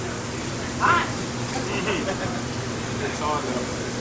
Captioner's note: laughs